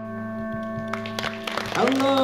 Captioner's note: applause